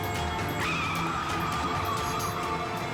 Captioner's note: dramatic music; tires screeching; dramatic music continues